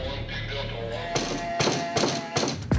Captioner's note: banging on door